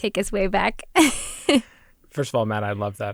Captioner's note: laughs